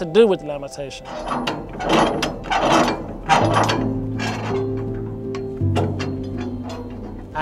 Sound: scrunch of metal on metal

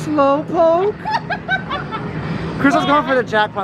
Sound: laughing

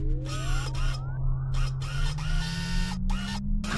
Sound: auto whirring

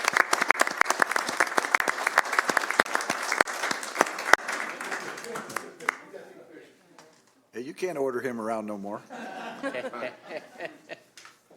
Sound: applause

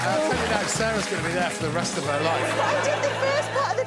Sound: applause

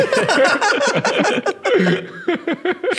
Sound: laughing

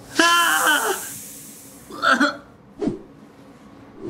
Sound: dad shrieks

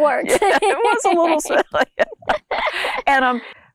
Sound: laughs

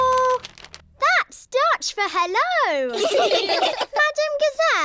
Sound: laughter

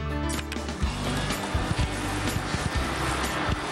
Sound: suction Noise

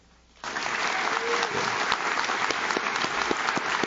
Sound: audience claps

